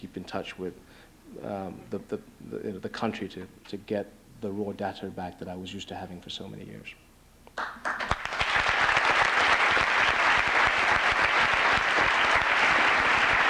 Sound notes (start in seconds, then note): 7.5 applause